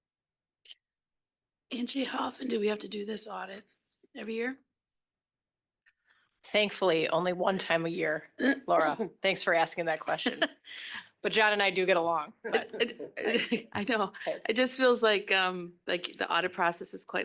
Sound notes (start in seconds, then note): 12.4 laughing